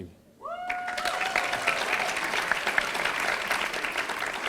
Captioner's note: audience applauding